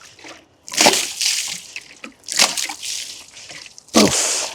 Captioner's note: water splashing